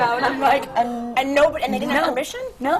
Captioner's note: gasps in horror